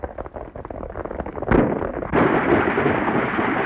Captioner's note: gunshot